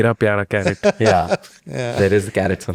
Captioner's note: laughs